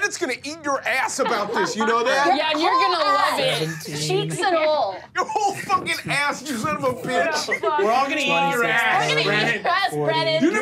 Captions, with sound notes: Fucking rat is gonna eat your ass about this, you know that? - Yeah, and you are gonna love it. (murmurs)